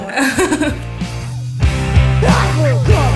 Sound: chuckles

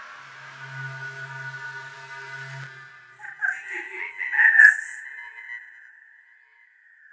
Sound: static noises and voices

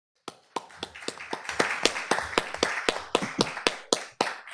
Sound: applause

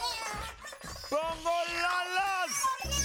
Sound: Bongolalas cheering; Tobor shouting; Lulu slurping

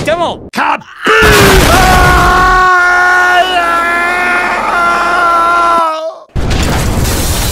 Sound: Demoman sticky jumped and is screaming in the air

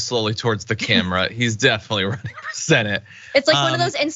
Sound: laugh

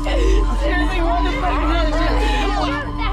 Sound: yelling

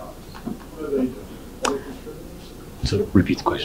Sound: speaking faintly

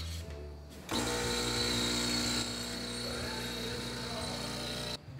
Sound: coffee machine humming

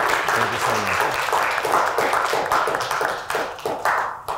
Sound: audience applauding

